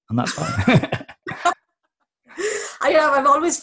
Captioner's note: laughter